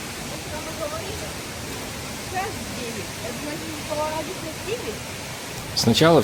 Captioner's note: sound of water